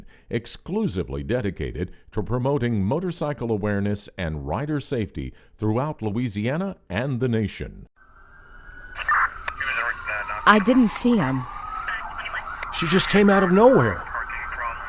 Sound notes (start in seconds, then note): 8.4 sirens wailing; 8.8 radio static